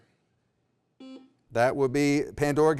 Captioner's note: beep